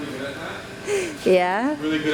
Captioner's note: gasps for air